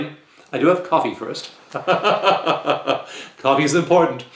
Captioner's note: chuckle